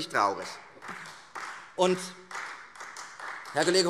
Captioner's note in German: Beifall Freie Demokraten